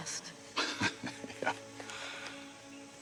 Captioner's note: laughing